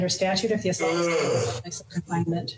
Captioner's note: yawns